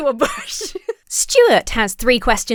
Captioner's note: laughs